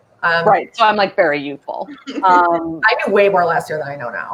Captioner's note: laughing